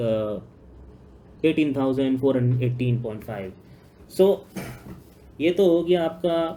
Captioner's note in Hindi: गला साफ़ करने की आवाज़